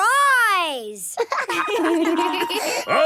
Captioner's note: laughter